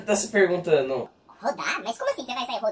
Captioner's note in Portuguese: voz modificada para tom engraçado